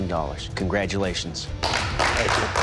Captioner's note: applause